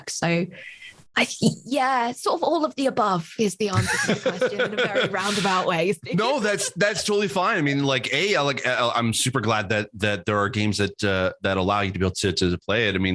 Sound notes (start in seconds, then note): 3.7 laughs